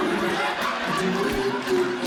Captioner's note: audience Laughing